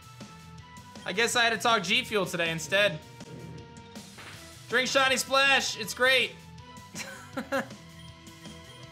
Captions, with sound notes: I guess I had to talk G Fuel today instead. Drink Shiny Splash. It's great. (soft chuckles)